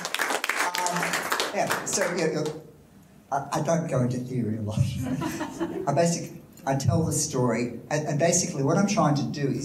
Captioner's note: audience applause